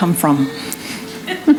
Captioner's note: laughter